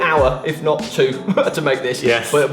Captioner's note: laughs